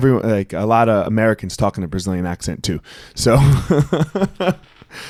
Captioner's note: laughing